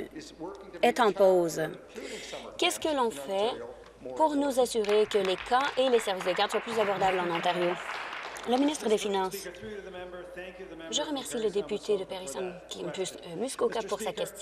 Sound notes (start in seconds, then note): 8.2 applause